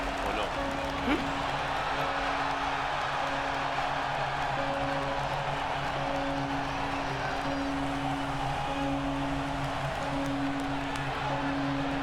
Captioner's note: applause